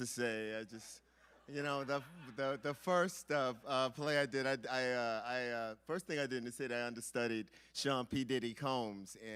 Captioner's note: laughter